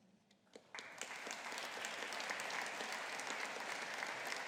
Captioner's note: audience applauding